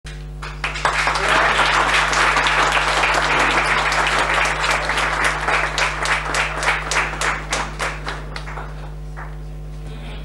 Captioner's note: applause